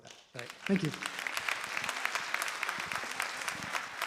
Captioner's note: applause